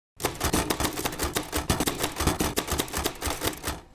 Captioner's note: typewriter clicks